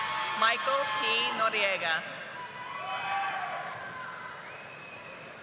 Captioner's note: audience applauding